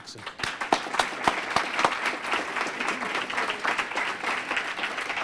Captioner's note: applause